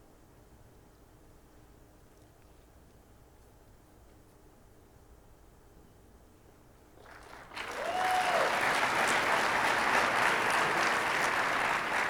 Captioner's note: audience applauding